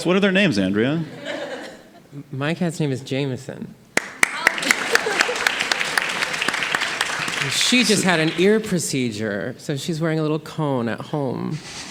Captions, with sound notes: What are their names, Andrea? - My cat's name is Jameson. (audience applauding) She just had an ear procedure, so she's wearing a little cone at home.